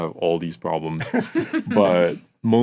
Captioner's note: laughing